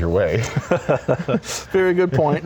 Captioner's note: laughs